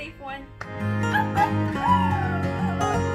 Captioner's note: imitates Coyote howls